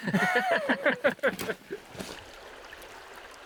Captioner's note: laughter